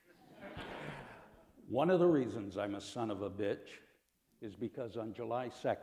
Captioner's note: laughter